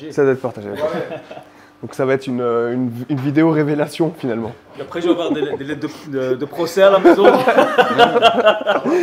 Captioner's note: laughs